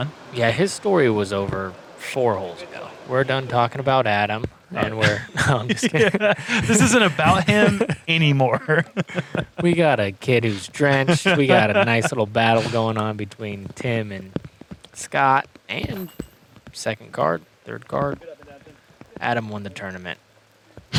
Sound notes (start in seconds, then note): 4.8 laughter